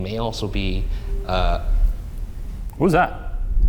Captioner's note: faint whistle echoes